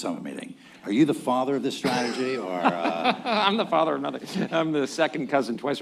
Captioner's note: laughs